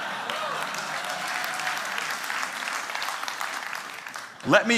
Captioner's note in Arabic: ضحك; تصفيق